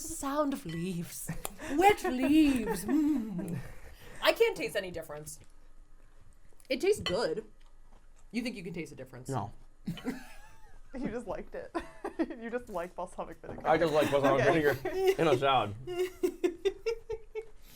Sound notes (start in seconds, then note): 11.7 laughing